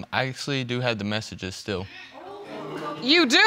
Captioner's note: audience gasps